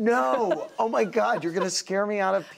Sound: laughter

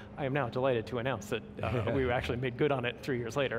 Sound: laughing

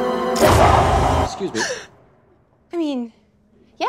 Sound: gasp

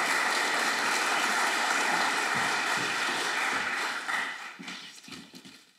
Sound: applause

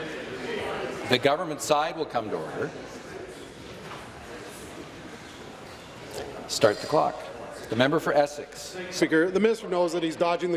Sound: conversation din

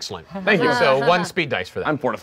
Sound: laughing

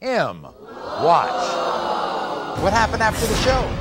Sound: audience screaming

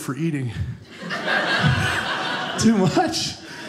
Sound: audience laughing

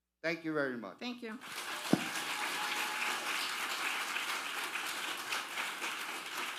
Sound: audience applauding thunderously

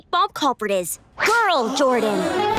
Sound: all gasping

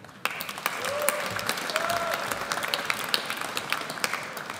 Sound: audience applauds

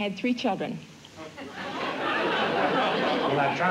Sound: laughter

